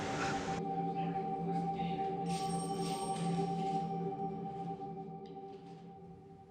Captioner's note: officers chattering; phone ringing